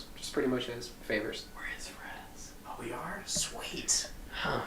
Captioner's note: whispers